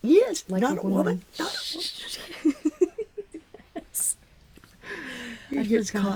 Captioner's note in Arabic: يضحك